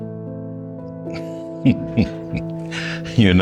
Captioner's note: chuckles